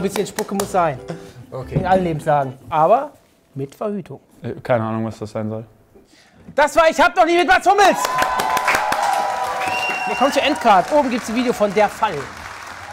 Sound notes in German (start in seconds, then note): 7.9 Jubel, Pfiffe